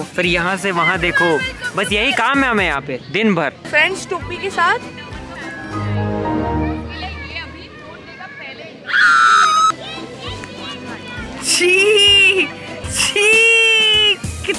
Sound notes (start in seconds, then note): 5.3 windows log off sound